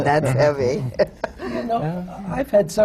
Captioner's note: laughs